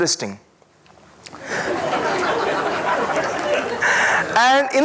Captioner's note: audience laughing